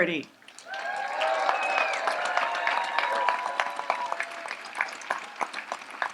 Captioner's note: audience applauds and cheers